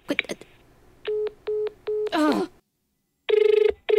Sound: beep beep beep

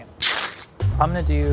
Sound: ripping

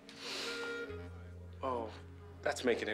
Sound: inhaling deeply

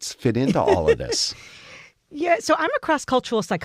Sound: laugh

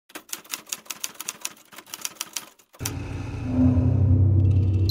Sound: typewriter; alarm clock

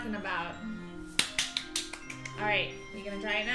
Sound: clapping

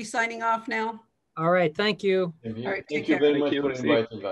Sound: mumbles

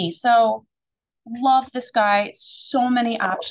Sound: none

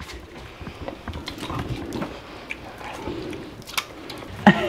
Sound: slurping

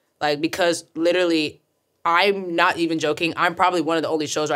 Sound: none

